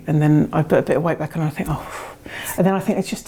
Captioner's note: sighs